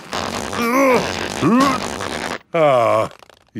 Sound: grunting

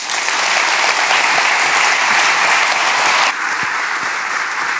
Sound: audience applauds

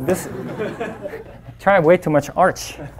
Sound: audience laughing

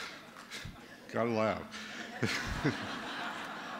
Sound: laughter

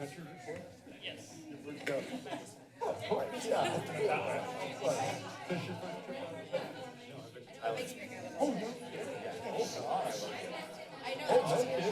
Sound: background conversations

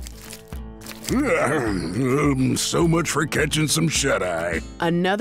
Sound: rock music; yawns

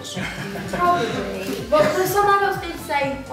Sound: laughing

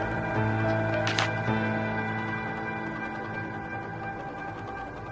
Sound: distorted atmospheric noise

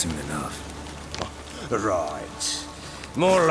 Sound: scoff

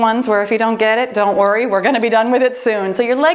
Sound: timer beeping

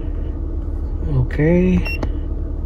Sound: beep

